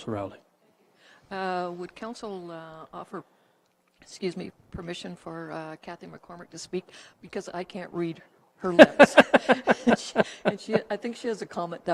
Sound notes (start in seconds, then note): 8.7 chuckles